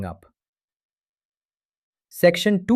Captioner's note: pause